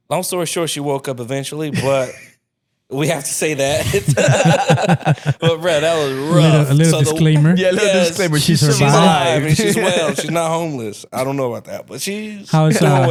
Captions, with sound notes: - Long story short, she woke up eventually, but we have to say that. (laughing) But bruh, that was rough. - A little disclaimer. - Yeah, yes. - A little disclaimer. - She's alive. - She's alive. And she's well, she's not homeless. I don't know about that, but she's well.